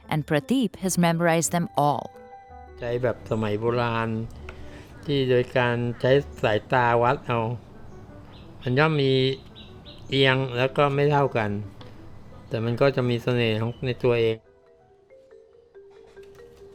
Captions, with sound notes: and Prateep has memorized them all. (speaking foreign language)